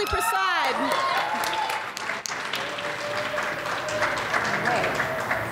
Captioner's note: audience applauds and cheers